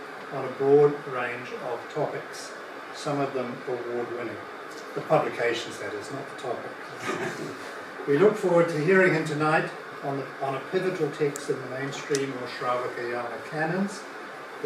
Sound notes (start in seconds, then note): 7.0 laughter